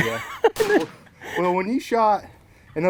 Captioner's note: laughing